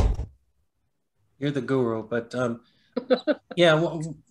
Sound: laughs

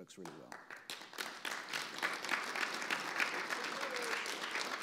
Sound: audience applause

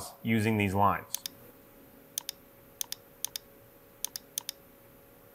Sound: mouse clicking

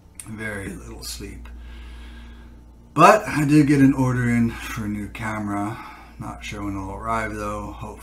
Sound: none

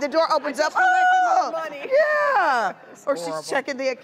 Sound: wailing

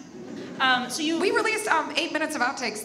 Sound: audience laughs

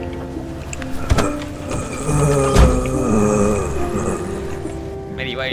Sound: groans

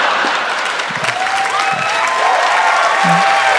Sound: crowd cheering

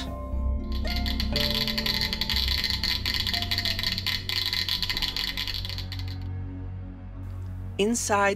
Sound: geiger Counter Clicking

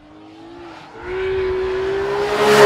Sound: VROOOOMMMMMMmmmmmm

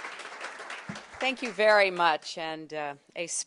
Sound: applause

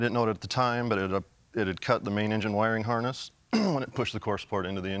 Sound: clears throat

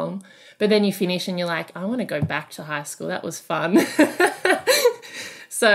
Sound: laughing

